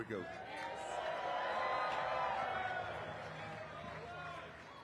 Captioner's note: audience cheering